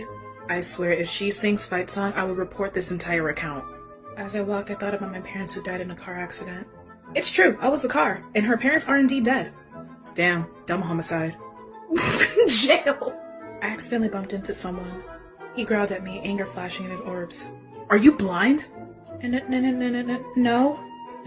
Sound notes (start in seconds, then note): 11.9 laughs